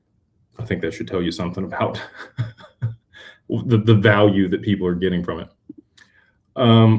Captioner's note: laughter